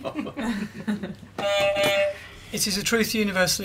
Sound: laughter; beep beep

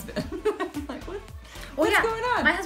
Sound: chuckling

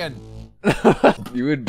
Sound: laughs

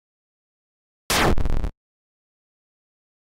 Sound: boom sound effect

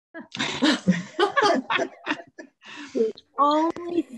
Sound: all laughing

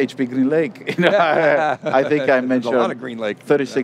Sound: laugh

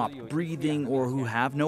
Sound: speaking alternate language

